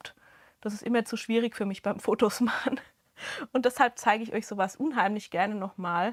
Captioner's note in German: Gelächter